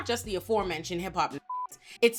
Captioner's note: beep